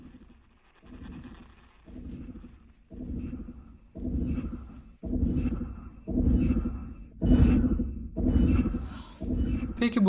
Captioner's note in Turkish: mekanik ritmik ses